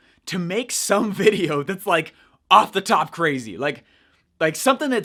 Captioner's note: chuckles